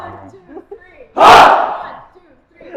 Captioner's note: shouts